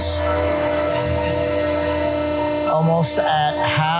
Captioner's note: machine whirring